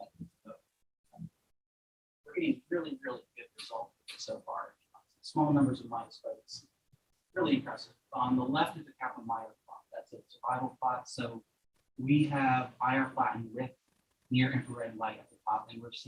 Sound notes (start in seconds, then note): none